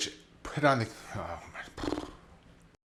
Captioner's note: sighs